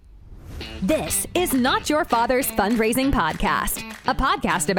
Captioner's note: voiceover